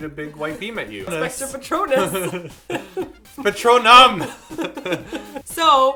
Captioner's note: haha